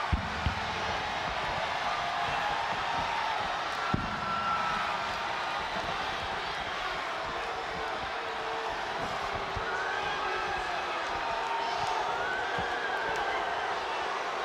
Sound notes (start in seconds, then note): 10.3 crowd booing